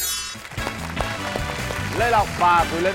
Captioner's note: applause